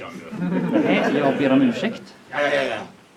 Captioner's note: audience laughs